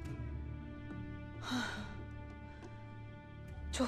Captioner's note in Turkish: Nefes sesi